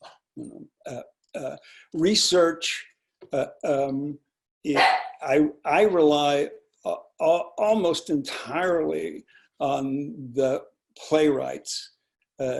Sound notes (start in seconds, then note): 4.7 dog barking